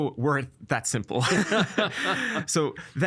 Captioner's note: both laughing